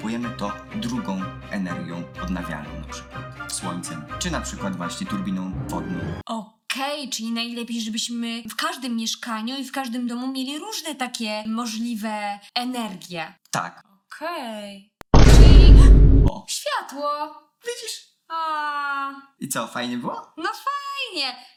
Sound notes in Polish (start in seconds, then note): 15.1 grzmot; 17.1 z zachwytem